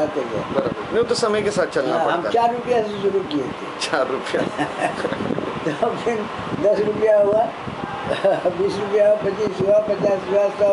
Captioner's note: laughs